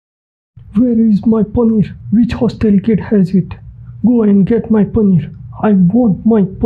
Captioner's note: imitating an African accent from 'Blood Diamond' movie